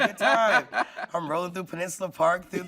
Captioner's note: laughing